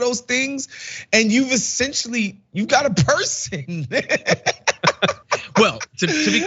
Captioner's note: laugh